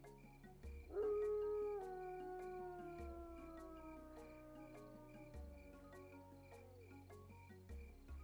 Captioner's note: wolf yelling